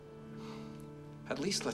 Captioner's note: none